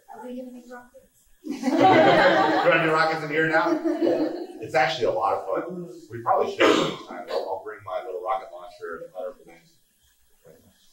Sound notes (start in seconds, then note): 1.5 laughing